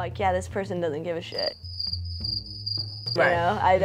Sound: crickets chirping

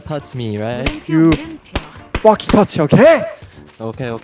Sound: in broken English

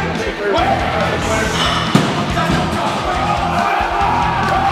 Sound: men yelling

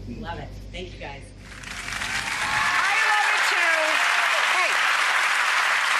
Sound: audience applauds

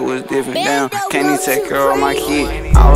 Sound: child's voice

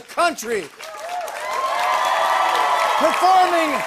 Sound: cheering and applause

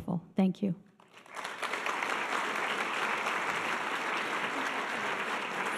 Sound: audience applause

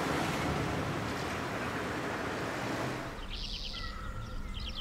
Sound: traffic humming; birds chirping

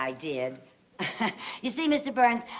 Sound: chuckles

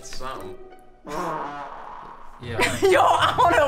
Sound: farting

